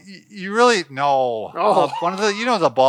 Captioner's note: laughs